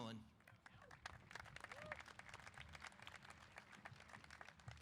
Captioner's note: applause